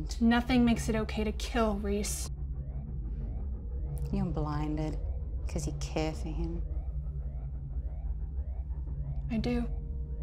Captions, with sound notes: - Nothing makes it okay to kill, Reese. (intense music) (alarm blaring) - You're blinded 'cause you care for him. - I do.